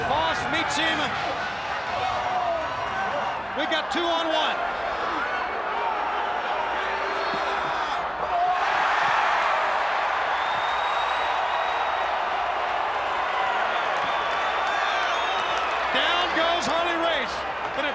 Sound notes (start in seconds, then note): 8.6 audience cheers